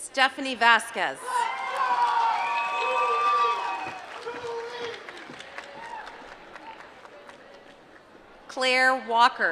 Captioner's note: applause